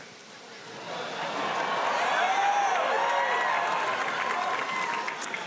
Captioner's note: audience cheering and applauding